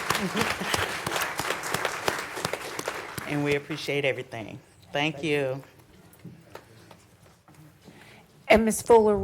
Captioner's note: applause